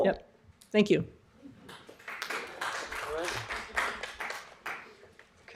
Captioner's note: applause